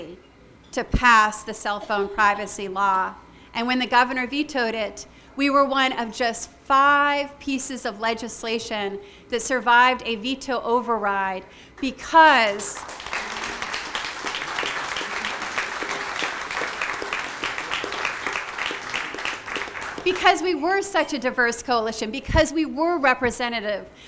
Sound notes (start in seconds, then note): 14.6 applause